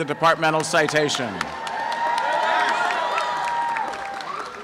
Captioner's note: applause and cheering